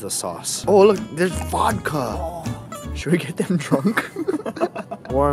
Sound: laughs; giggling

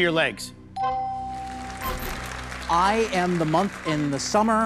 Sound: bell dings

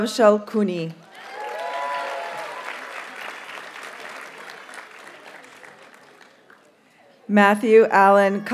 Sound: audience cheers and applauds

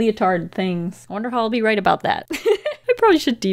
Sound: laughs

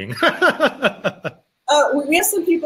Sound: laughing

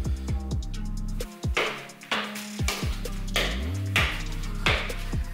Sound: ball bouncing

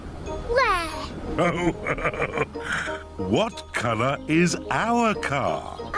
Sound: laughs

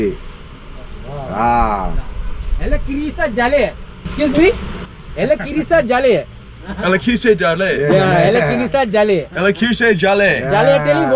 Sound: speaking Sri Lankan

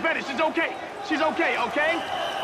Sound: crowd screaming

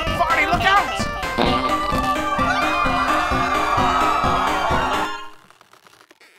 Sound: Album screaming; everyone screaming

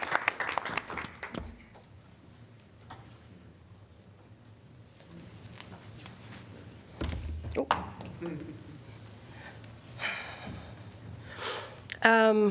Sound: applause

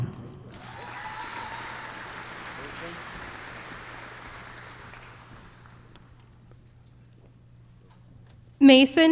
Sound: applause

